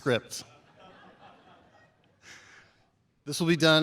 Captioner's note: chuckling